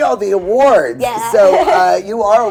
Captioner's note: chuckling